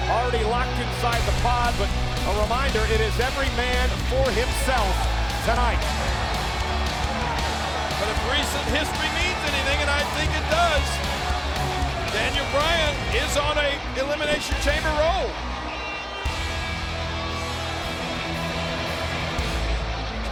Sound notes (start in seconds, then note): 6.0 crowd cheering; 6.0 dramatic upbeat music; 16.0 dramatic upbeat music continues